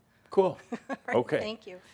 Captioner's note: she chuckles